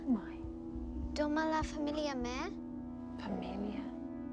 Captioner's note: Mya speaking in foreign language; Jane speaking in foreign language